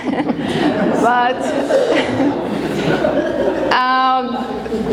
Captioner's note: audience laughing